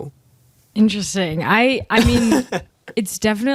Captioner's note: laughter